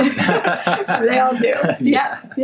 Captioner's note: laughs